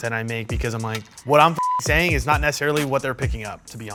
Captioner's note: beep